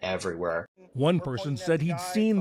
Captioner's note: voice-over